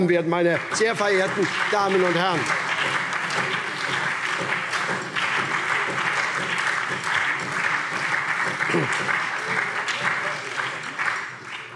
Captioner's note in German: Lebhafter Beifall SPD